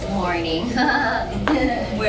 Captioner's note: laughs